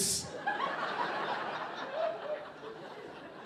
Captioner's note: audience laughing